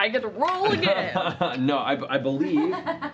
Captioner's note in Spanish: risas